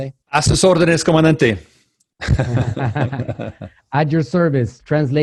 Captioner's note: speaking foreign language